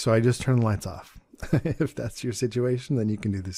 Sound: chuckles

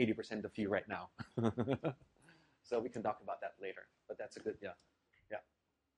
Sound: laugh

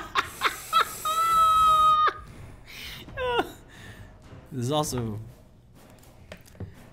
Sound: laugh

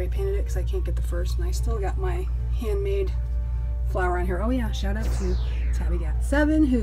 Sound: laser beam

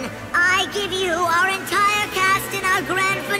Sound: voice getting higher

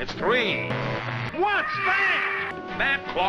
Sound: bird squawk

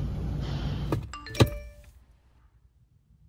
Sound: smartphone Indicator Sound; smartphone Indicator Sound

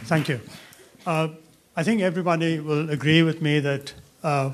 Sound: voiceover

